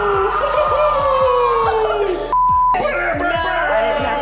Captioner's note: beep